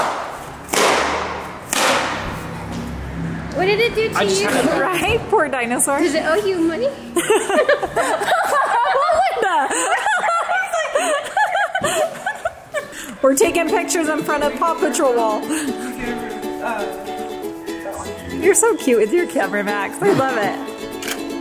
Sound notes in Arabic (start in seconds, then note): 7.1 كلاهما يضحك; 15.8 موسيقى هادئة مبهجة